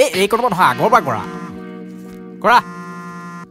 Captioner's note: phone rings